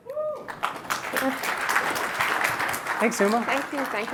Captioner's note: applause